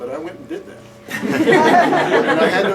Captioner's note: laughter